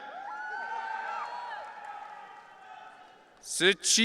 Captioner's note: audience cheering